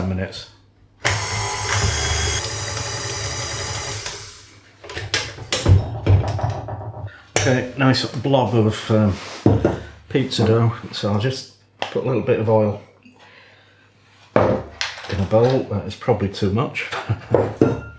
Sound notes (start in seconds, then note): 1.0 machine whirring and chugging